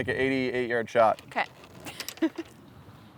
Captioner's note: laughs